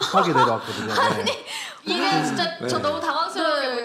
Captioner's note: laughter